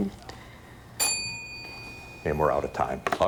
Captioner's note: bell dings